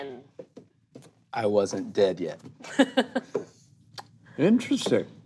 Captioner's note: laughs